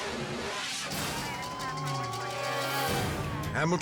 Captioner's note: sirens wailing; dramatic music